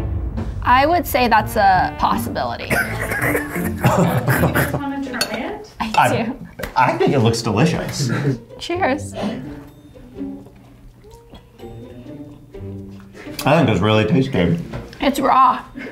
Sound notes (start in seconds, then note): 2.7 laughing; 9.3 whimsical music